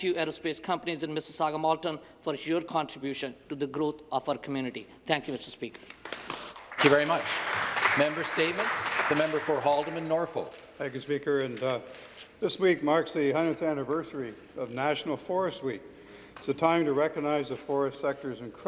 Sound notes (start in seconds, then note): 9.3 some Applause